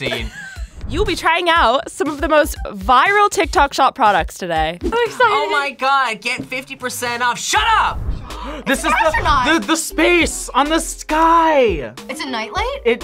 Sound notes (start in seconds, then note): 0.1 React laughs; 8.2 gasps